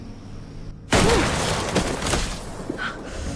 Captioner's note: gunshot